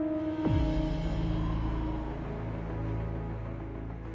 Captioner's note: wind whistling